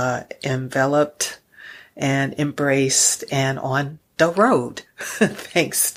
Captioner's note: chuckles